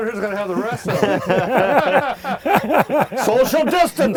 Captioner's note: laughter and chuckling